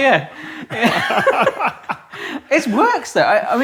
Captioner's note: both laugh